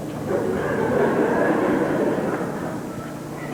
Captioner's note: laughter